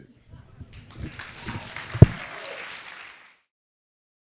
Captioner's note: applause